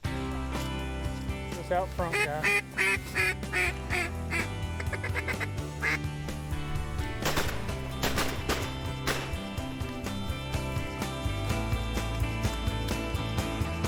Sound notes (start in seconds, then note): 0.2 lively music; 2.0 duck calls; 7.2 gunfire; 10.4 lively music continues